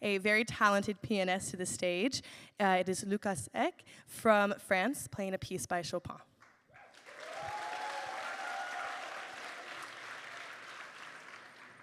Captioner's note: applause